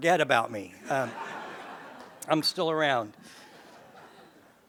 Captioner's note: laugh